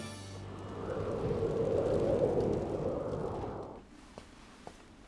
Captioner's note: wind howling